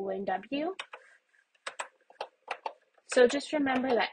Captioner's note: keyboard button presses